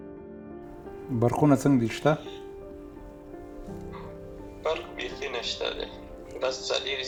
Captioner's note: soft music; and man on phone speak foreign language